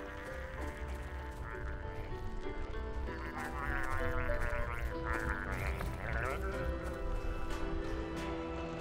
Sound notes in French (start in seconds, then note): 3.0 gargarismes